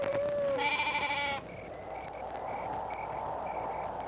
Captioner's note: goats bleating